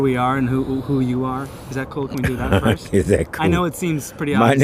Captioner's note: laughs